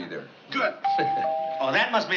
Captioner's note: doorbell rings